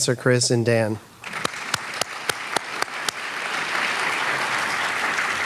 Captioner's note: audience applauding